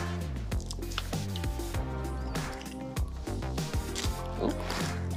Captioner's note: eggs cracking